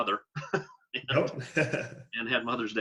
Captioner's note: laugh